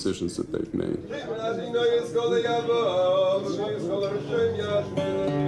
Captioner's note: man speaking in foreign language; gentle guitar music